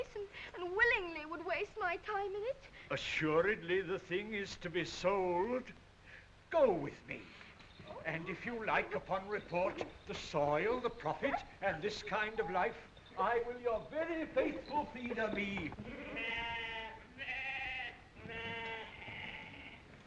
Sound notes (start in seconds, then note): 15.8 sheep baaing